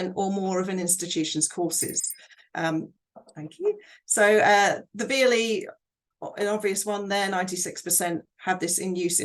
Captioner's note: half way bell rings